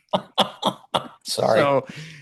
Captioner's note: laughing